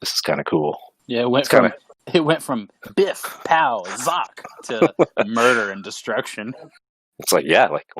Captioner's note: laughing